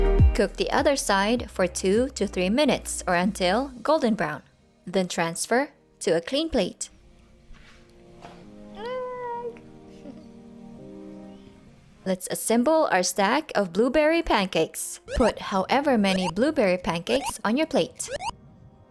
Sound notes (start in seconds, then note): 7.8 in high pitch voice; 10.0 soft chuckle